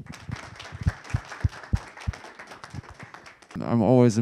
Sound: audience clapping

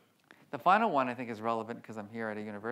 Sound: none

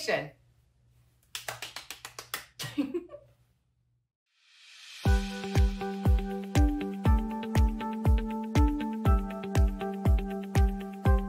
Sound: applause

